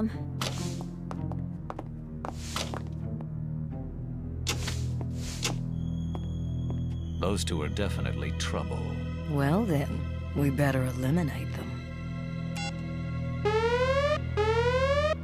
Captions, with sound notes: Would you ladies mind moving to the waiting room down the hall while I take this call? - No, not at all. No problem. [footsteps] Those two are definitely trouble.